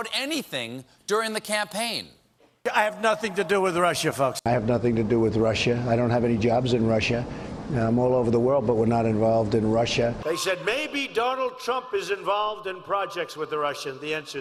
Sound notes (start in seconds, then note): none